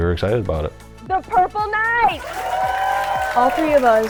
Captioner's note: crowd cheering